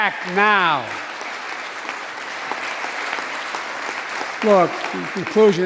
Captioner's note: applause